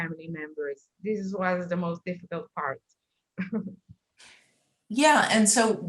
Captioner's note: chuckles